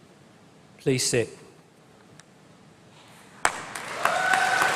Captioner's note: applause